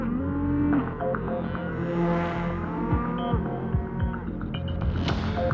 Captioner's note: mooing